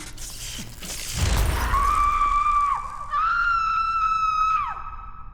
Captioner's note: strong scream